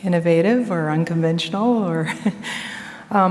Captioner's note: chuckles